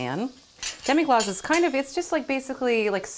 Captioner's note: utensil clatters